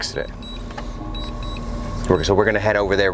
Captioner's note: alarm beeping